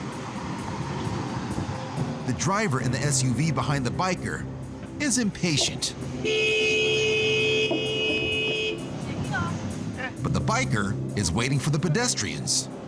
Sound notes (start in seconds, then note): 6.1 car horn